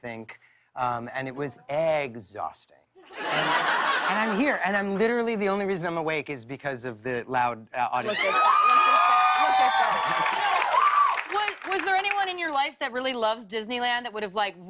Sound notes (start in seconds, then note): 3.0 laughter; 8.0 cheers and applause